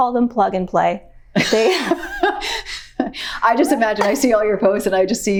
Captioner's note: laughs